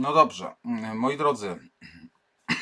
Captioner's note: coughs